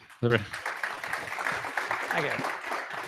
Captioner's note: applause